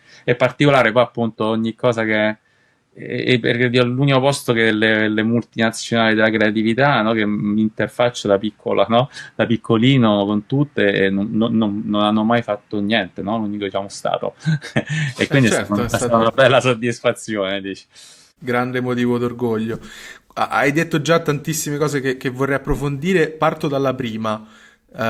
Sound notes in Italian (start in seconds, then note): 14.4 risate